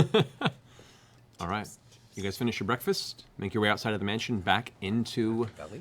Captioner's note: laughs